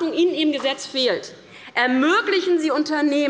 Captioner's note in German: none